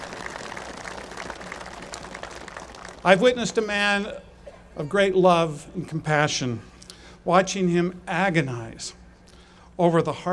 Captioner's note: applause